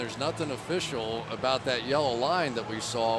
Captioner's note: none